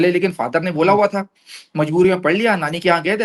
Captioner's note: nasal sound